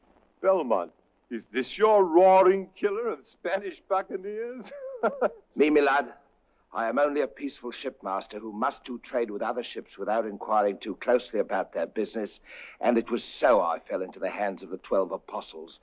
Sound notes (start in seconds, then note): 4.4 laughs; 12.4 inhales